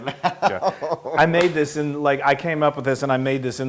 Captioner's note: laugh